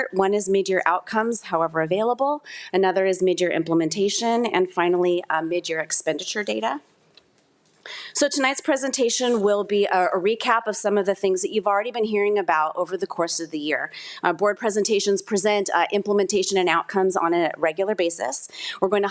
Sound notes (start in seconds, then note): none